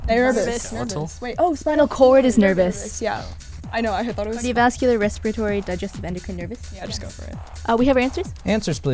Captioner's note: whispering